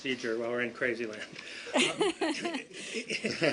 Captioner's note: laughter